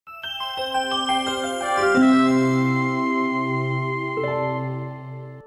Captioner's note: bright music; chimes ringing